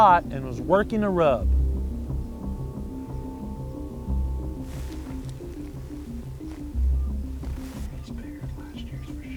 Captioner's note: whispering